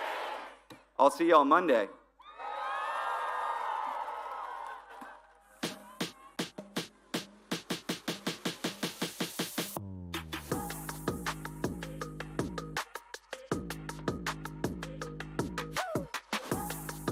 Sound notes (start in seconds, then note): 5.9 applause